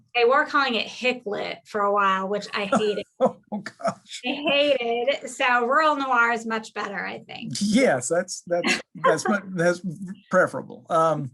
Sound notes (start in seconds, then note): 2.6 laughing